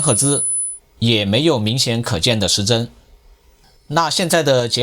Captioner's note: high frequency